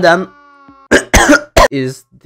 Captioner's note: coughs